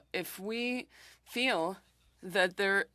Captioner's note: speaking French